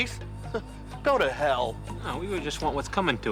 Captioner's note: chuckles